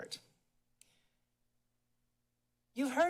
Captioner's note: pause